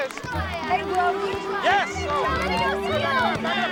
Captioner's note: all shouting